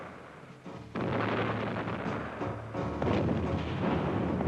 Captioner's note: explosions